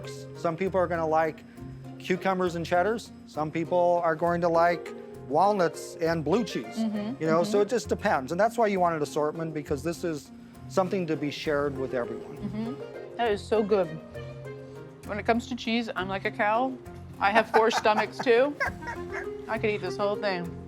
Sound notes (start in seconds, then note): 17.4 laughs